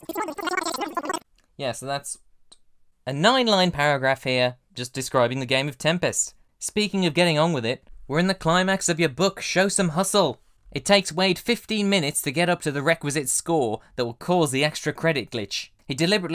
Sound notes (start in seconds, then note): 2.4 quiet counting